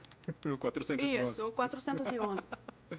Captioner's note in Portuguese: risos